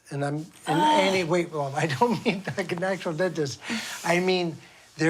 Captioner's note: laughs